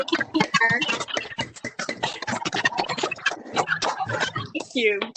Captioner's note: audience applauds